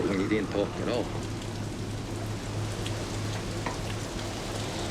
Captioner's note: rain pattering